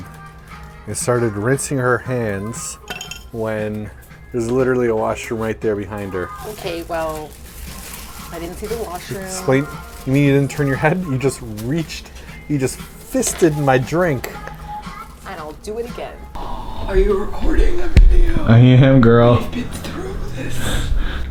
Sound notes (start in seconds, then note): 17.0 raspy; 19.4 chuckles